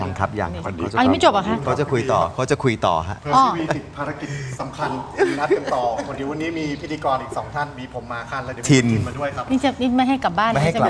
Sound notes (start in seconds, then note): 3.6 laughter